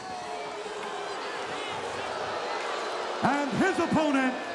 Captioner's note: crowd boos